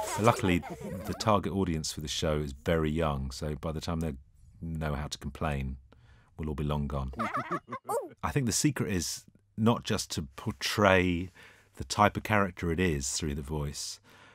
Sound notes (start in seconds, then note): 7.1 laughter